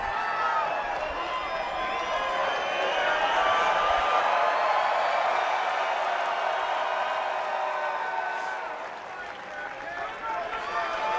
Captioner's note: cheering